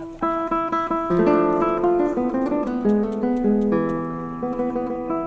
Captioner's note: rustling